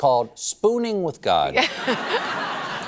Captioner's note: laughter